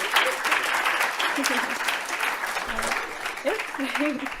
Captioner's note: audience cheers and applauds; audience applauding; host chuckles; chuckles